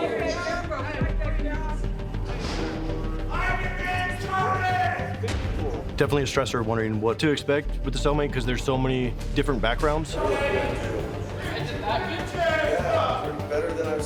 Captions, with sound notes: [inmates shouting] [suspenseful music] Definitely a stressor, wondering what to expect with a cellmate. 'Cause there's so many different backgrounds.